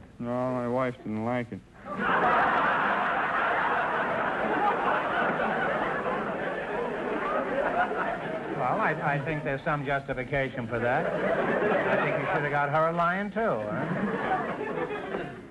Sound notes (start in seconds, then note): 1.9 audience laughter; 13.4 audience chuckling